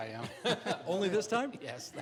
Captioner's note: chuckling